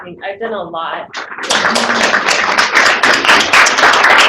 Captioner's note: applause